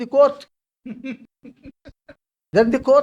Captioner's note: laughs